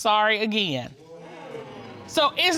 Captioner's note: audience exclaims